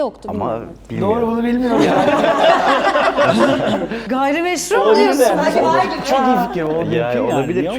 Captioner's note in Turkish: kahkaha